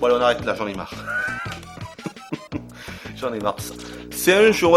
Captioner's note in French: rires